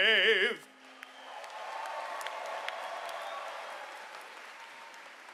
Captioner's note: audience cheering